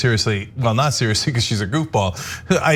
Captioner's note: laugh